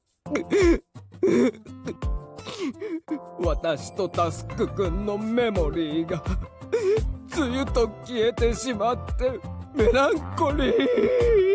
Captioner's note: sobs